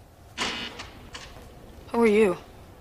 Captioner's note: door buzzes